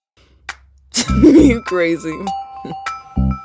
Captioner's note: Bailey laughs